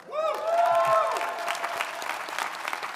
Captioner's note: audience cheering; audience applauding